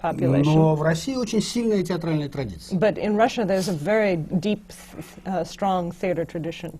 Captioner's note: foreign language not transcribed